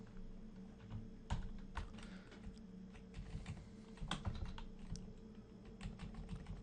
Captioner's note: typing on-screen